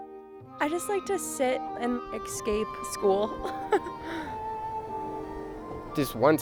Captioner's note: laughing